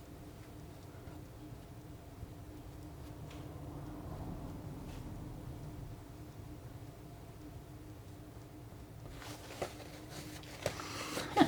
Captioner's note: laughs